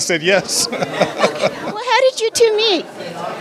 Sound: laughter

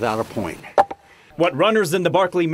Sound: clunk

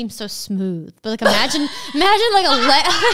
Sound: laughing

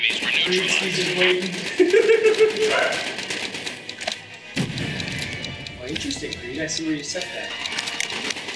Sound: laugh

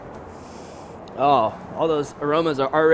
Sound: sniffs

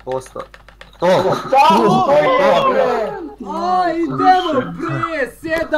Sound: autistic screeching

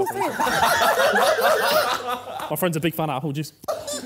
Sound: Sidemen laughing

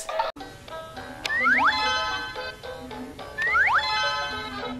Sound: electronic game sounds

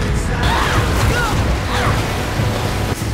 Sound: groaning

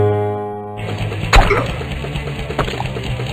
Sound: grunts

